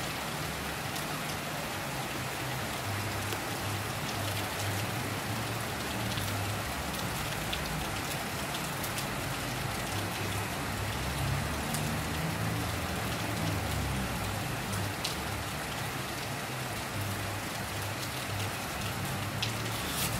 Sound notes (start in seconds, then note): 10.1 rain Sounds